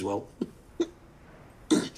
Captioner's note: Brackenreid chuckles